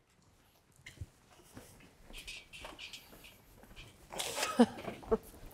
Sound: footsteps clicking on floor; chuckling

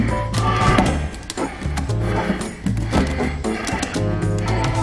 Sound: suitcase clicks open

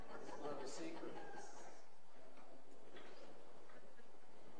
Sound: participants laughing

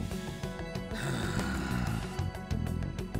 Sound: sighs

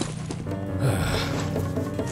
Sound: sigh

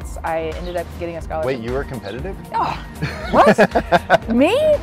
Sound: laughs

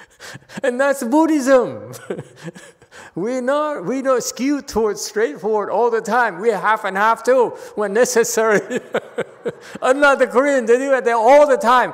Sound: laughs

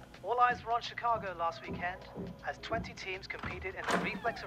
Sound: door opening

